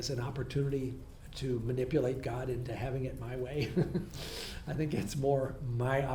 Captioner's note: laughs